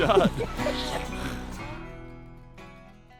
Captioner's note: laughing